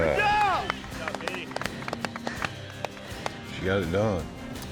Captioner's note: all clapping